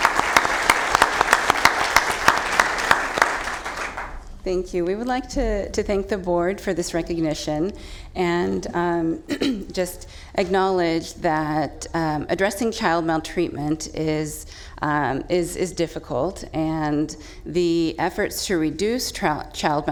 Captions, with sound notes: THE FLOOR IS YOURS. [ APPLAUSE ] >> THANK YOU. WE WOULD LIKE TO THANK THE BOARD FOR THIS RECOGNITION AND JUST ACKNOWLEDGE THAT ADDRESSING